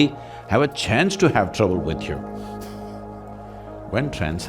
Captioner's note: laughs